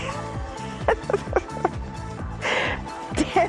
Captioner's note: laughs